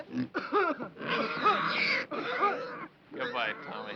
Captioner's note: Tommy coughs; pig squealing